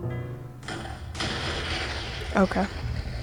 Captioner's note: explosion sounds